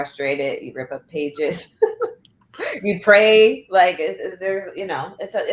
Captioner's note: laughter